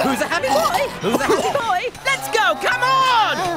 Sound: vomiting

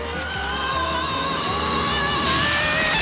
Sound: screaming

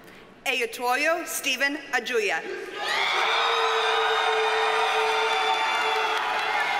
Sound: audience cheers and applauds

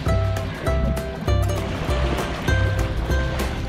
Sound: water splashing

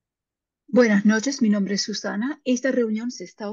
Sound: speaking spanish

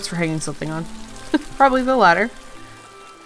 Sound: laughs

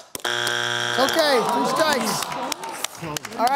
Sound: buzzer sounds; audience reacts

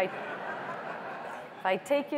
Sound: laughter

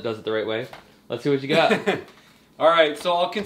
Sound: laughs

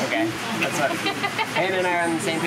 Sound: laughs

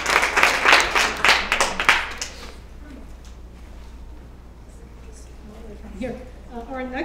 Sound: applause

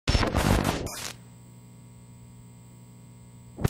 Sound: static whirring

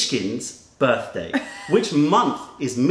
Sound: laughter

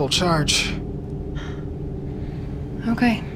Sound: Melanie sighing

